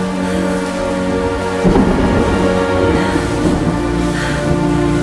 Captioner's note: heavy breathing